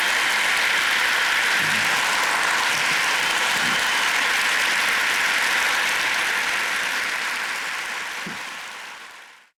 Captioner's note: loud applause, cheering